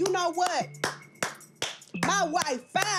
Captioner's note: clapping